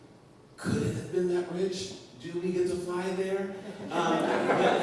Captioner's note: laughter